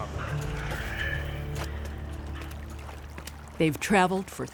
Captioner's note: footsteps splatting; water trickling